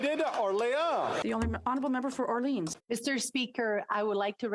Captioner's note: some Applause